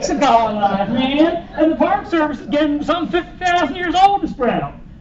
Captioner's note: laughter